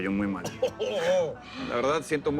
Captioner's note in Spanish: Risa irónica